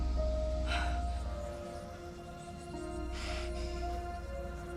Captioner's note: voices whispering